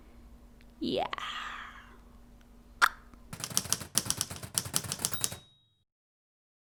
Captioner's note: typewriter sounds